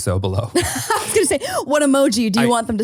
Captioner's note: laughing